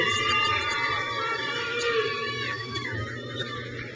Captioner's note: crowd cheers